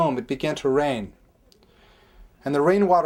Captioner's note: none